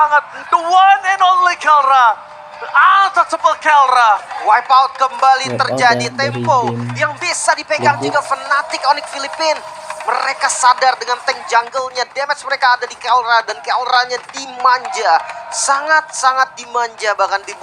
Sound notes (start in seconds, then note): 1.8 applause